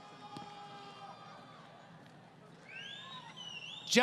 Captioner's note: crowd Cheering